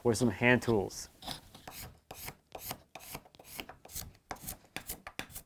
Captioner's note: tool scraping